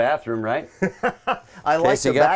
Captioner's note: laughing